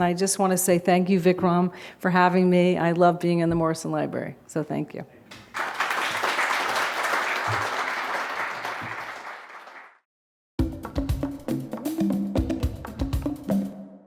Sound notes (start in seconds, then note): 5.4 audience applause; 10.6 upbeat drums music